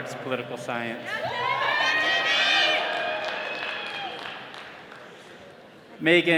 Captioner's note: attendees cheering